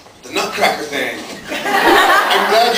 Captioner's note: laughs